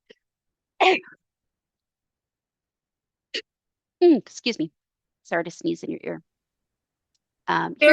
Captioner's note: sneeze